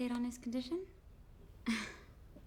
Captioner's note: laughs